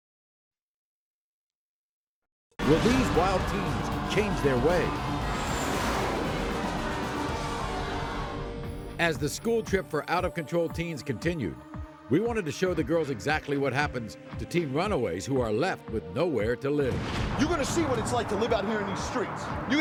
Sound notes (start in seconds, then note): 4.8 audience shouts; 6.2 plane engine